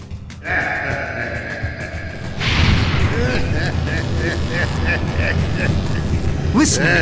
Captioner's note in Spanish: Se Ríe